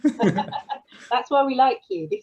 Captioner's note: laughing